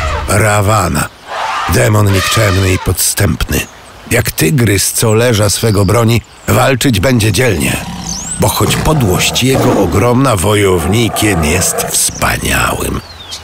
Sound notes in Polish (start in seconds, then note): 5.3 śpiew ptaków, szum; 7.1 pomruki tygrysa